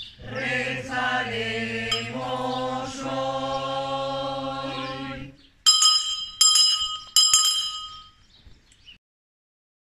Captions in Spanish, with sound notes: rezaremos hoy. [suena la campana tres veces]